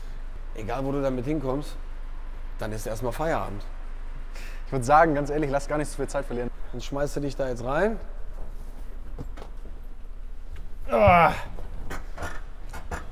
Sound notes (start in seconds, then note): 10.8 groans